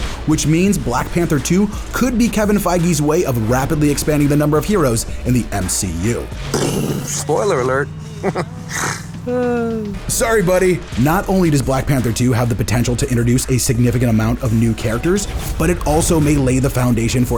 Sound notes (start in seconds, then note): 6.6 chuckles; 6.6 imitates bomb exploding